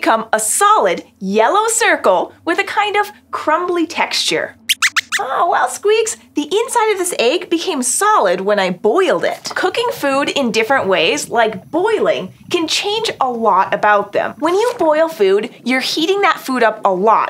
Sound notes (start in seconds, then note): 4.5 squeaks squeaks